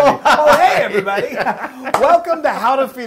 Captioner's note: laugh